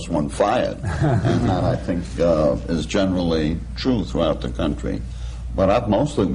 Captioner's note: laughter